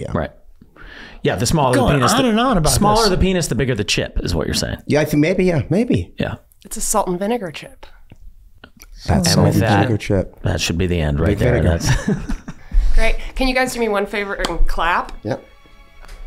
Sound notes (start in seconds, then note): 11.6 Glenn laughing